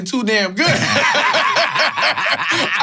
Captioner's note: laughs